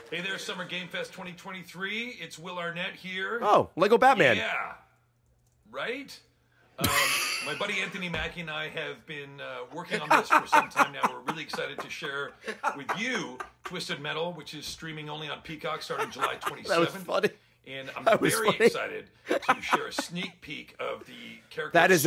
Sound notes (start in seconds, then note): 6.5 laughs; 20.4 laughs